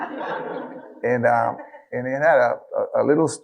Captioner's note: audience laughing